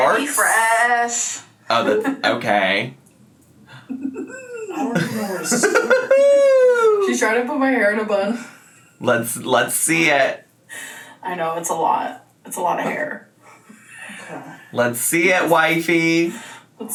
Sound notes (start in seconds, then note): 2.7 laughing